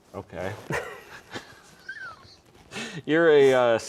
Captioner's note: laughing